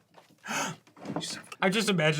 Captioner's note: dan gasps